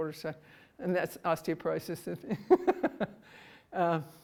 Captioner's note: laughs